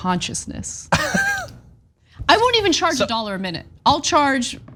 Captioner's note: laugh